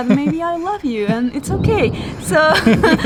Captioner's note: both laughing